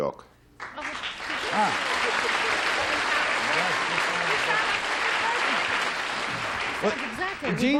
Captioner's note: applause